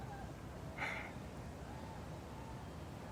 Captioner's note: he exhales, softly